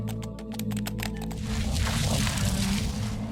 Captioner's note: eerie music; keys typing; wet material tearing